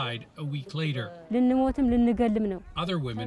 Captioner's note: speaking Foreign Language